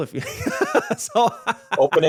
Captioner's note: laughing